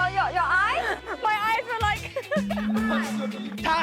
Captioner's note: holding back tears